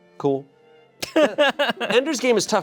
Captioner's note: chuckles